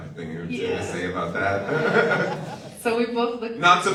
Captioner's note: laughs